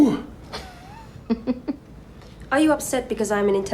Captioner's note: Townsend laughing